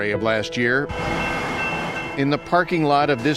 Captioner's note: bells dinging